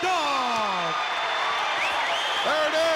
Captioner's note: crowd cheers